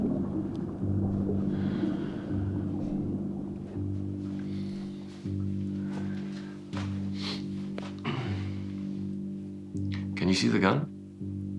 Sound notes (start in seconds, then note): 1.5 tense music; 1.5 water gurgling continues